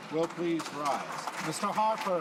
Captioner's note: applause